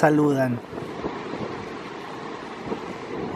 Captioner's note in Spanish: sonido ambiente del bus y viento